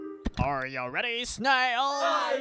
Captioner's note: click